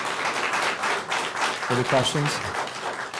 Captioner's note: applause